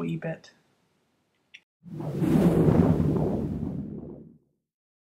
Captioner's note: whooooosh!